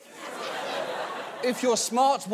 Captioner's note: audience laughs